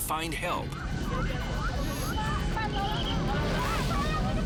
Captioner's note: people yelling